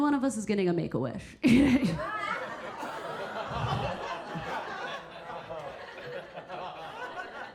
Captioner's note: Keira chuckling; audience laughing